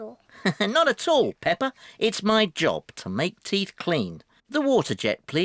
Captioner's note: laughs